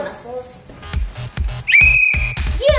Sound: blowing a whistle

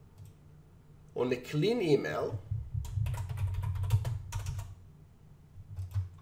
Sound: computer typing

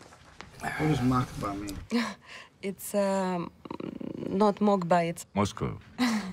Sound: speaking in foreign language

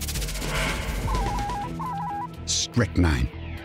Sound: machine beeping

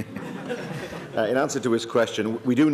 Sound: laughter

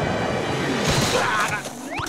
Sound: shivering; screaming

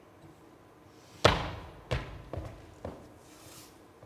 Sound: feet stomp

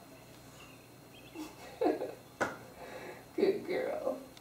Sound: laughter

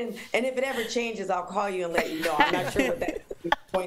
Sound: laughter

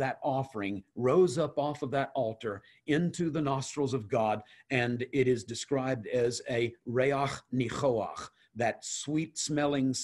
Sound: Hebrew

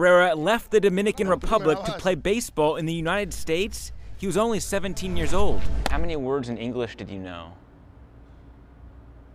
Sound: speaking in spanish

